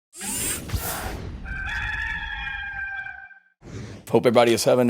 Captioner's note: rooster crowing